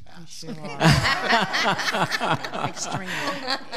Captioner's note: all laughing